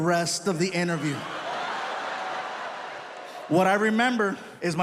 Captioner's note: audience laughs